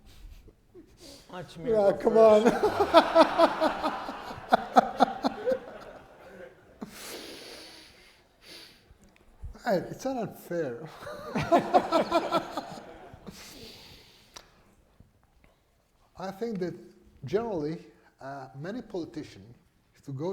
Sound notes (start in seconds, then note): 1.2 laughs; 10.6 laughs